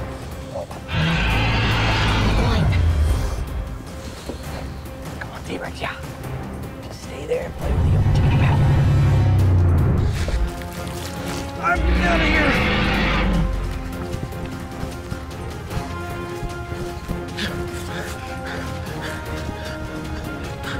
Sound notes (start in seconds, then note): 10.0 T-rex chewing; 11.7 T-rex roaring; 16.6 panting